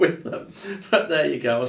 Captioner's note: laughing